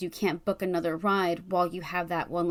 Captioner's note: none